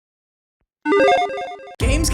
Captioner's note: electronic chiming